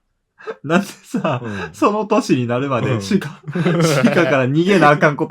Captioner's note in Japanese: 笑い